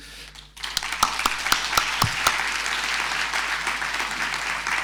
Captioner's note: audience applauding